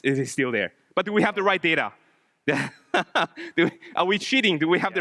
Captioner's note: laughs